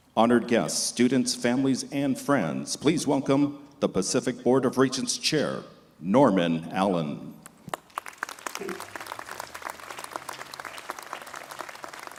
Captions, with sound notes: Honored guests, students, families and friends, please welcome the Pacific Board of Regents chair, Norman Allen. (crowd applauding)